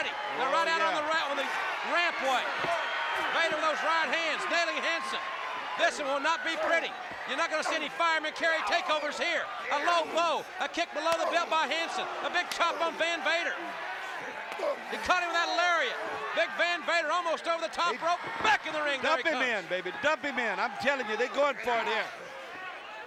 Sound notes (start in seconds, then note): 14.1 applause